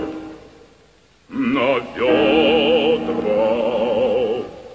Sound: sobbing

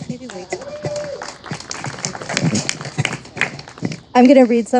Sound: audience applauding and cheering

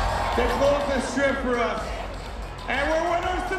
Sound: cheers and applause

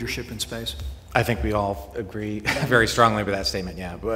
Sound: laughter

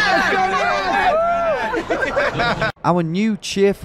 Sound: fans cheering and laughing

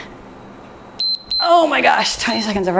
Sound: timer beeps

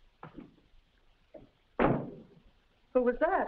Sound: door thuds shut

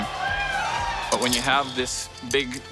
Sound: cheering

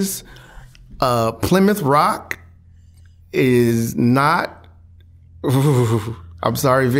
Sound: shuddering

